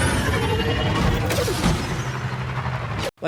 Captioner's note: speeder zooming; speeder thudding; speeder buzzing